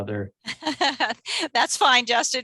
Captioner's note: laughter